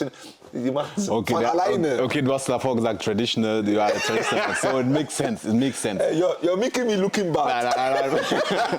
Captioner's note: gelächter